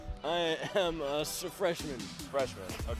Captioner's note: laughs